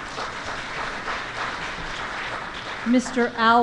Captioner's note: applause